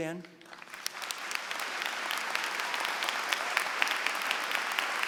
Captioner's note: applause